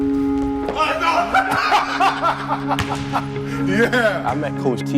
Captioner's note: laughing; shouting